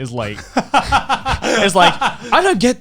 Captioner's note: Garnt laughing